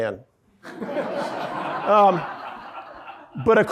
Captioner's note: audience laughing